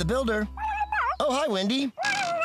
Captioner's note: garbled Phone Voice